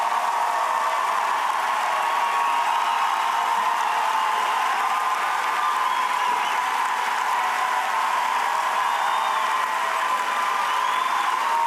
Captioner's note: cheers and applause